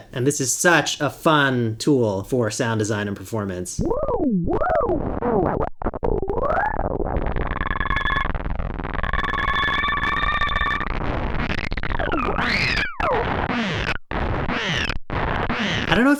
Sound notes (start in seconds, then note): 3.8 varying warps and woops and wiggles